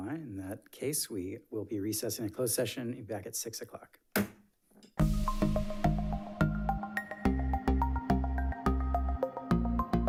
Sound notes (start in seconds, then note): 4.2 gavel bangs; 5.0 lively music